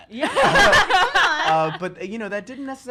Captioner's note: both laugh